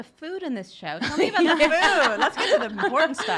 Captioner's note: laughs